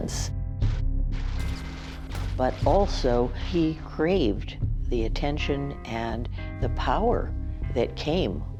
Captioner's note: gunshots booming